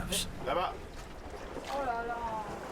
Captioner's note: speaking French